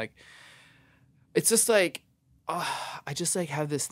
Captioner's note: sighs